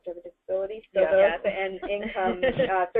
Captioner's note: laughter